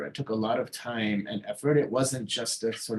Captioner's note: none